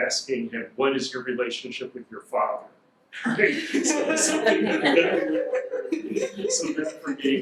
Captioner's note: audience laughs